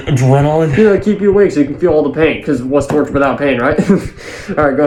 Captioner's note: laughs